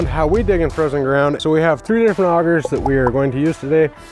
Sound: pop sound

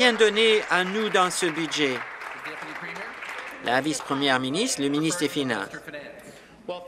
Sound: applause

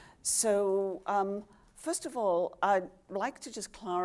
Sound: none

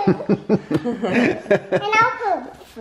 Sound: laughs

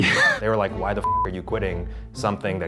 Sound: beep

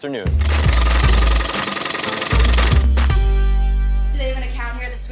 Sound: machine rattling

